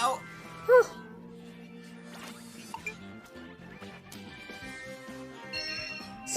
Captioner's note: Komasan gasps